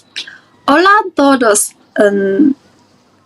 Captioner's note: spanish